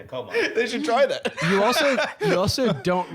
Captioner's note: laughs